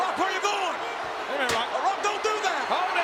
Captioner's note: Jerry mumbling